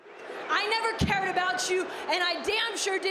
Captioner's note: crowd jeering